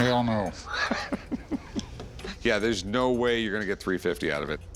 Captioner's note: laughs